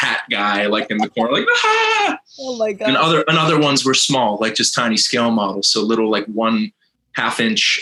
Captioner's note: whahahhhaa!